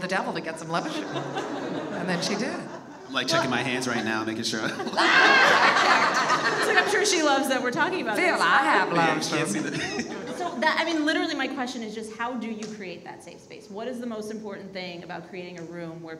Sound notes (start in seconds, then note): 0.4 audience laughs; 4.6 all laugh